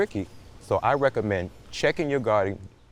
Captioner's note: birds twittering distantly